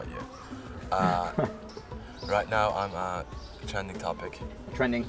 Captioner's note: chuckles